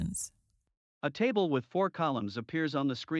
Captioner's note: voiceover